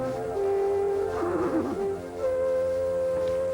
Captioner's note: neigh